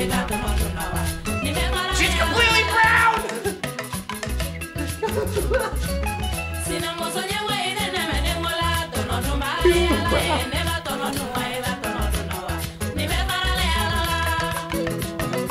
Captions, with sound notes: - She's completely brown! (laughs) (upbeat music) - She's so brown. (upbeat music)